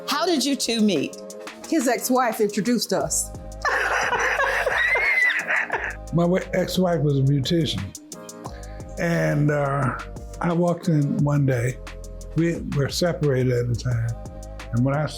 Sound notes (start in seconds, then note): 3.6 laughing